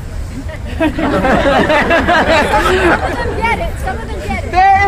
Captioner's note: crowd laughs